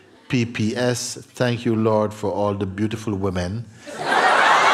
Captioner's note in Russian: взрыв смеха